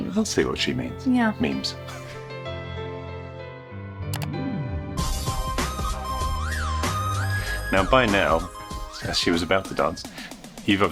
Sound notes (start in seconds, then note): 2.1 light music; 4.0 upbeat music; 4.1 computer mouse clicks